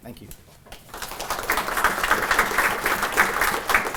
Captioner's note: applause